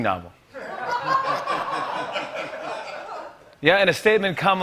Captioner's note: laughter